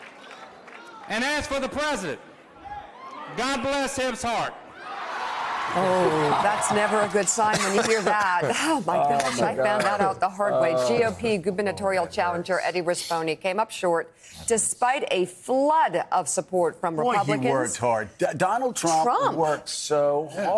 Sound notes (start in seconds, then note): 4.8 cheers and applause